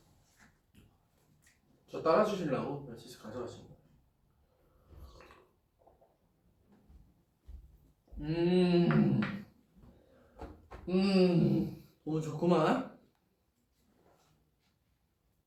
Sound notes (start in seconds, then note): 4.9 slurp